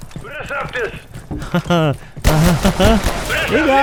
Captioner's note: nervous laughter